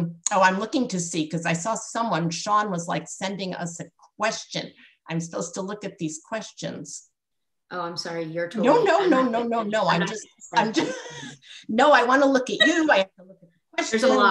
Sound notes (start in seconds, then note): 10.6 laughter